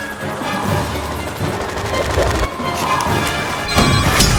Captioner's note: music intensifies; blade spins loudly; alarm tones; shotgun blasts